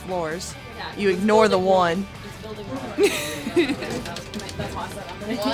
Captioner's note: laughs